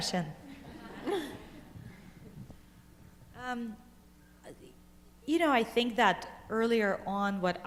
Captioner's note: laughter